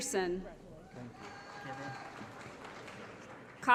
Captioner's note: applause